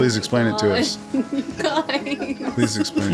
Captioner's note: laughs